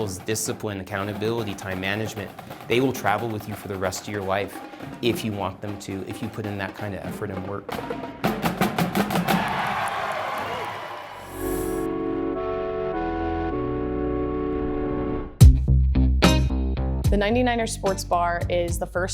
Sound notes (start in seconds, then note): 8.1 drumline cadence comes to a thunderous end; 9.0 crowd cheers approval